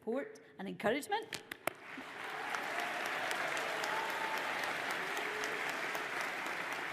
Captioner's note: audience applauds